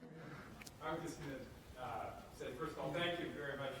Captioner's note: voiceover